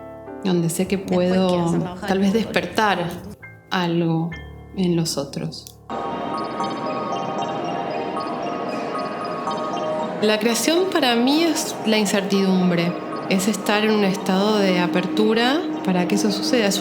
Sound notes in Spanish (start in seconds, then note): 6.0 música suave; 6.9 murmullo de gente